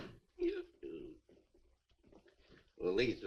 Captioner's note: belches